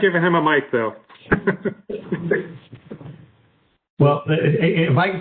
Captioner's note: laughing